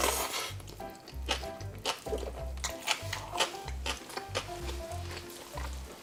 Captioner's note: Crunch